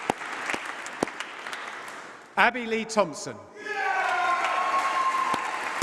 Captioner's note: applause